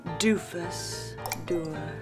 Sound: plink

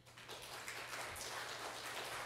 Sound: applause

